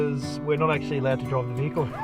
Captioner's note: laughter